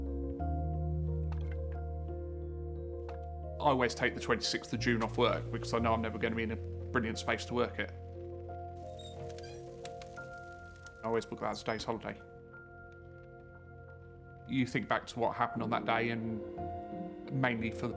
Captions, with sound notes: [gentle music continues] - I always take the 26th of June off work because I know I'm never gonna be in a brilliant space to work it. [door creaks] [fire crackles] I always book that as a day's holiday. You think back to what happened on that day and mainly